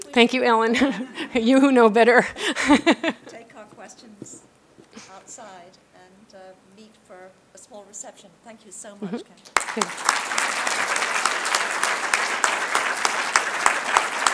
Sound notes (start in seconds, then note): 9.5 applause